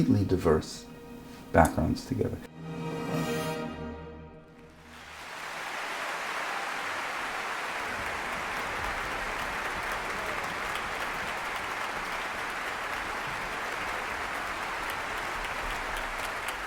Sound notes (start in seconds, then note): 3.3 orchestral music; 5.3 audience applauds